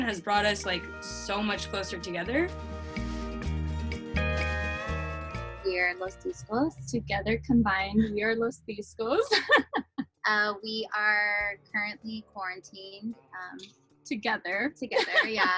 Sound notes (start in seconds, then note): 9.2 laughs; 14.9 laughing